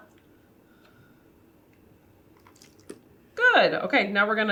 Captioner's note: cup clacks down on table; spits